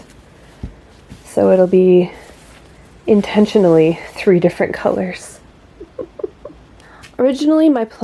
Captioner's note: laughs softly